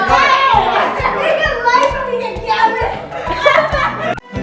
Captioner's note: screams in excitement; laughter